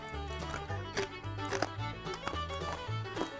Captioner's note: labored crunching